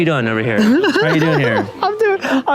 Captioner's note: laughing